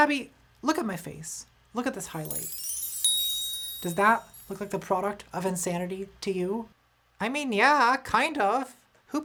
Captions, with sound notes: Tabby look at my face. Look at this highlight. [Chimes] [Ding!] Does that look like the product of insanity to you? - I mean yeah, kind of.